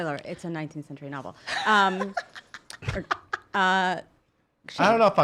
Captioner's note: laughing